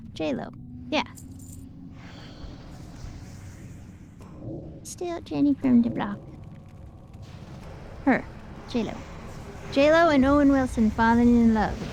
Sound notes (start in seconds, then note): 2.0 sighs